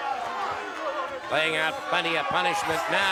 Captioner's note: crowd boos